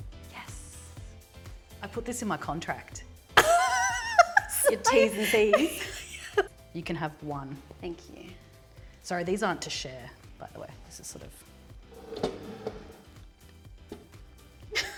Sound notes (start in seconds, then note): 3.4 laughs; 11.9 plate dragging; 14.7 laughing